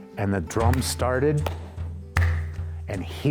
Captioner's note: claps hands